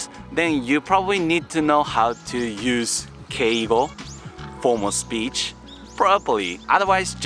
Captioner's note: formal speech